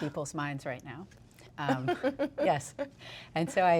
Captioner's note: laughs